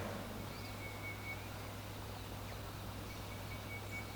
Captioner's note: birds chirping